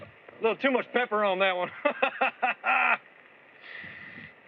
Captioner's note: laughs